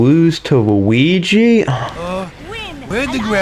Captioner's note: exhales Oxygen